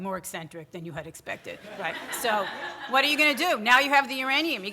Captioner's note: audience laughter